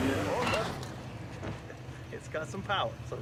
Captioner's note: engine revving